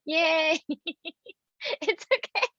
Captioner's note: laughing